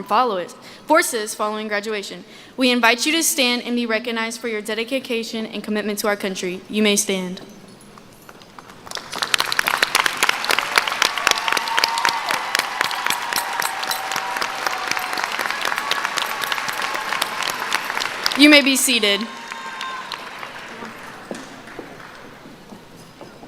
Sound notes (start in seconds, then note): 13.1 applause